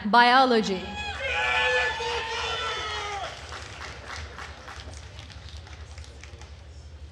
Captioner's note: attendees cheering and applauding